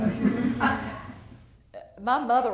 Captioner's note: laughter